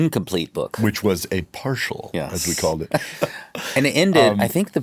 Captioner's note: chuckles